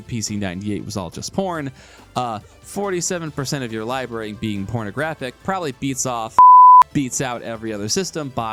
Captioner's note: blip